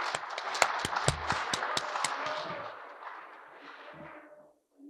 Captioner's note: audience Applause